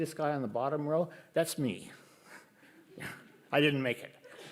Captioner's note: laughs